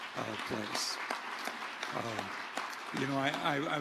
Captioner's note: audience applauding